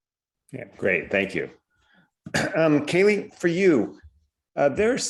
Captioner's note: cough